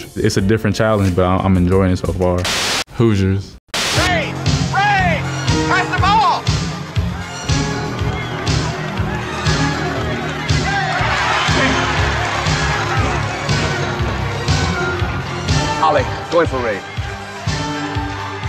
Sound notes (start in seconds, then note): 4.9 people cheering; 10.6 audience celebrates